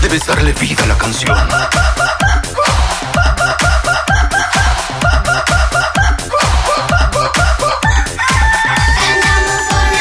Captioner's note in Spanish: Sonido gallo